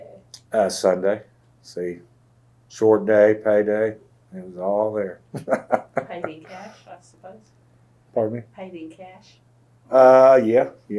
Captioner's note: laughs